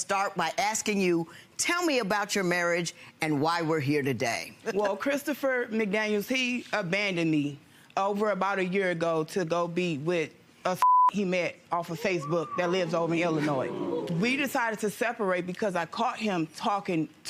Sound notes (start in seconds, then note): 10.8 beep; 14.3 audience jeer